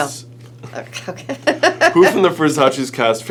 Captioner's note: laughing